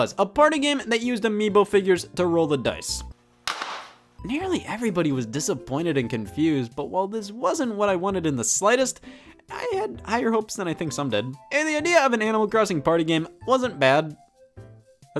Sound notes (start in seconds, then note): 3.3 case thuds